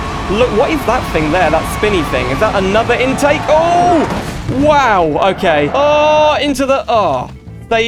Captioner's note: car Crash